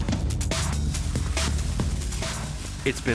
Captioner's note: burner hissing